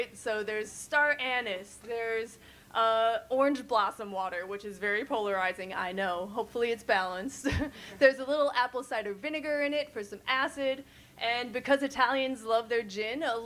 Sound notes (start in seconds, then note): 7.3 chuckles